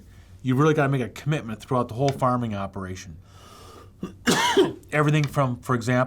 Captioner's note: coughs